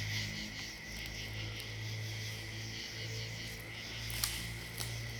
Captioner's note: insects chirping